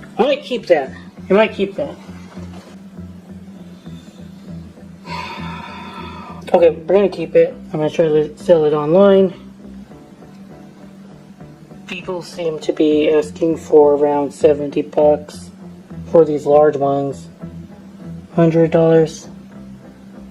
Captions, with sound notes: might keep that. (SIghs) Okay, we're going to keep it. People seem to be asking for around 70 bucks... for these large ones... hundred dollars.